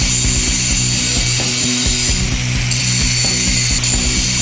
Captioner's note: exciting rock music; tools buzzing